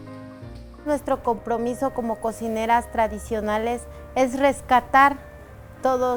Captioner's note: speaking foreign language